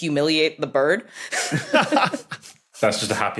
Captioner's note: group laughing